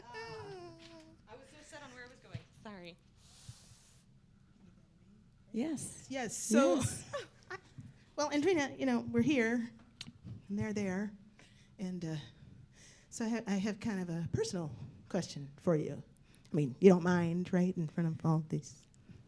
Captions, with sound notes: (speaking off mic) Well, Andrina you know, we're here. And they're there. And uh, so I have, I have kind of a personal question for you. I mean, you don't mind right, in front of all these…